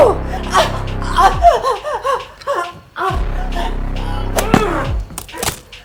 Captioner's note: Caroline screaming; dramatic music